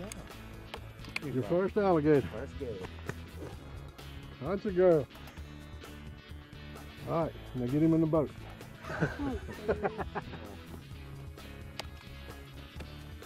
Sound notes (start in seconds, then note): 8.6 laughs